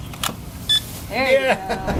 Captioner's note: beep